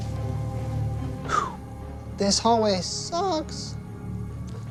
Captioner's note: exhales sharply